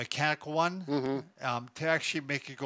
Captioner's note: hums agreeably